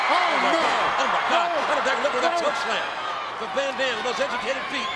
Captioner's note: overlapping chatter